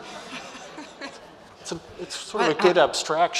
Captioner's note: audience laughs; laughs